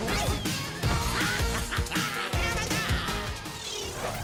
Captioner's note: laughs